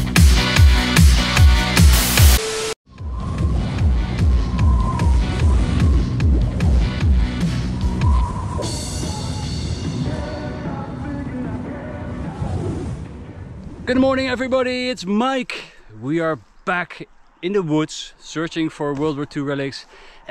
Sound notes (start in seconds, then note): 1.9 screen hissing; 3.4 wind blowing; 3.9 upbeat music